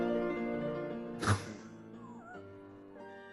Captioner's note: sniggering